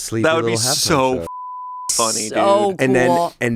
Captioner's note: beep